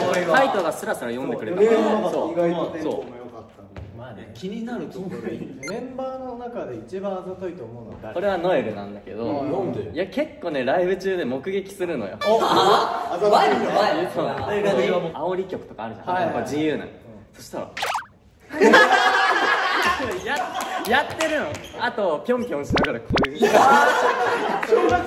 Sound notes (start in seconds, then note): 20.9 laughs